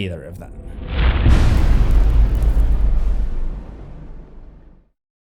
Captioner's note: impact